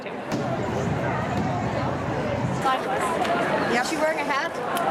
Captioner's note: crowd chatter